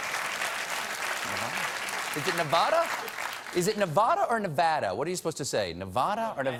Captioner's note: applause